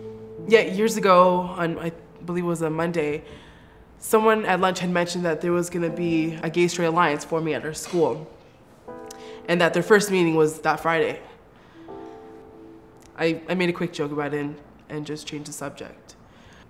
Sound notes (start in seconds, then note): none